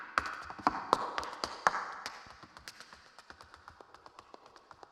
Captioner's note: shoes clacking